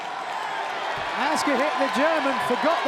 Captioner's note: crowd cheers